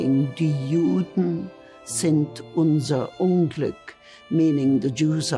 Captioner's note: speaking in foreign language